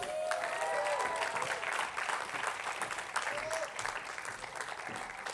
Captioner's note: attendees applauding